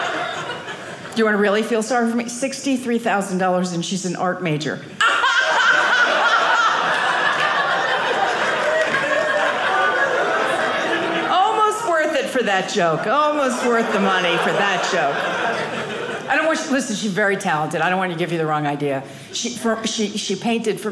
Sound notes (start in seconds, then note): 5.1 audience laughing